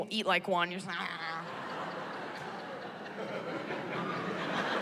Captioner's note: laughter